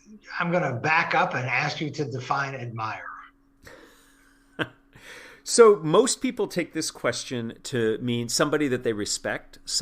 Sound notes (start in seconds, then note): 4.4 laugh